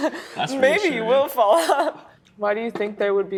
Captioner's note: laughs; laughs